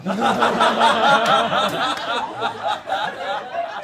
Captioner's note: all laughing